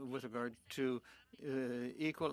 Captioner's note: speaking French